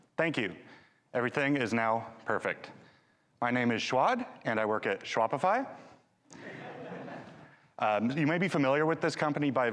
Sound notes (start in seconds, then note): 6.3 audience laughing